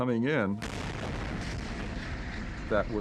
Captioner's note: fireball roaring